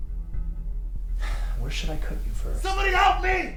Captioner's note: ominous music; sighs